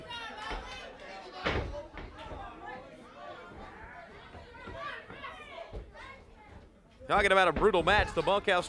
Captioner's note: crowd chatter